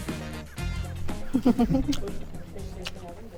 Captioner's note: giggles